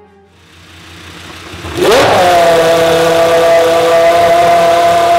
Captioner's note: engine sound